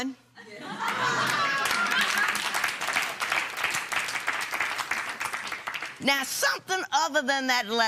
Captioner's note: laughter and applause